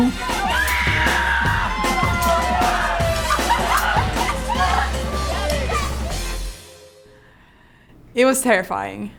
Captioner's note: screaming